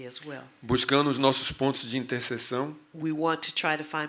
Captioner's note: speaking portuguese